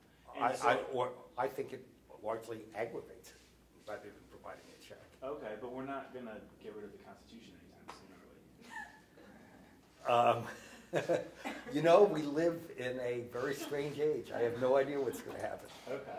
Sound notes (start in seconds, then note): 10.1 laughs